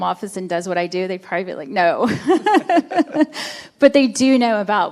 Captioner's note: chuckles